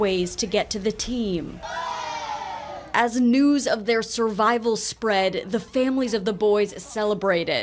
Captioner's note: cheers